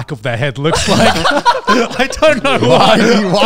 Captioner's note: all laughing